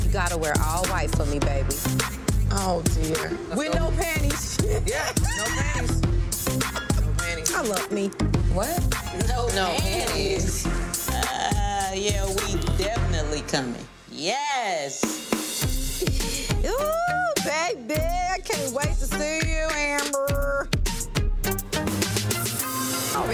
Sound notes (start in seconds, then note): 4.4 both laughing; 15.6 gentle upbeat music